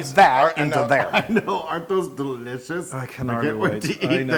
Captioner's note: laugh